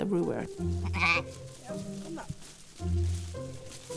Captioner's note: sheep bleating